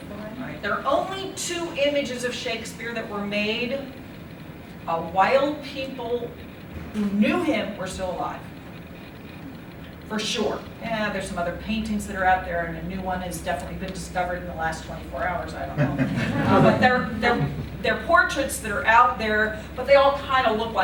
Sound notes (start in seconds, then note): 15.7 laughter